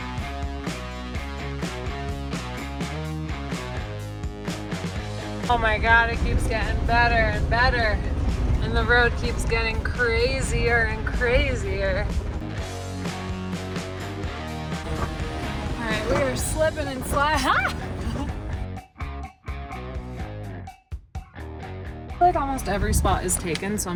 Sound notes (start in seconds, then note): 0.0 upbeat rock music continues; 18.3 laughs; 19.1 upbeat rock music continues